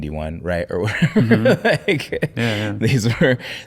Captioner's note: laughing